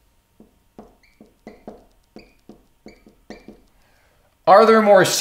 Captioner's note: marker tapping and squeaking